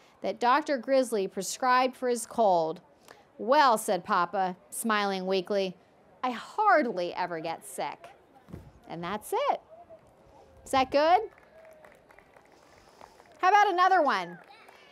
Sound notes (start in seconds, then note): 11.1 applause